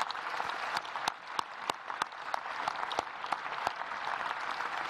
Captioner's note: applause